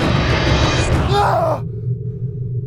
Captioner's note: David screaming; gentle tense music